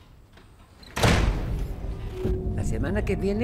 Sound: door slams

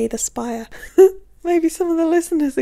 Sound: laughing

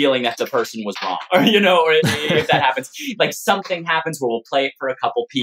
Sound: laughter

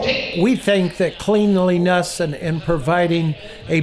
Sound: voiceover

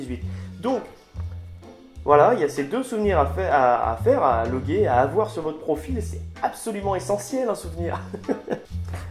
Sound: laugh

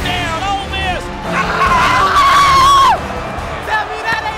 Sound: teammate screams

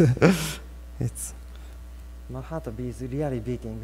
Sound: laughs

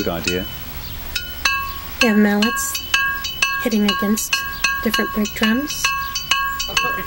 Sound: metal clinking noise

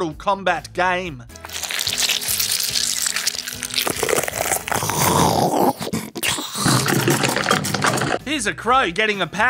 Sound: squeezing and crushing fruits and vegetables

